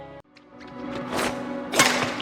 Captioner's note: shuttlecocks smashes